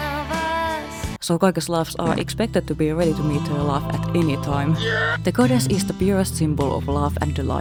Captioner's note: scream